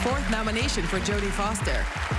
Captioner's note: applause